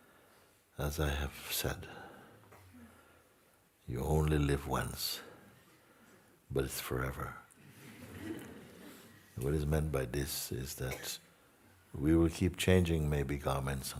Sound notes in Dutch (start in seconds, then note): 7.8 gelach